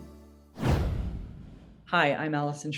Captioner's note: air whooshing